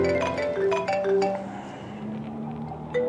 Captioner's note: phone ringing